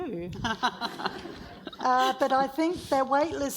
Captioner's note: audience laughs